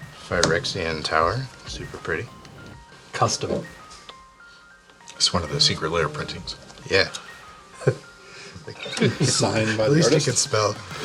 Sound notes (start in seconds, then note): 7.8 all laughing; 10.8 laughing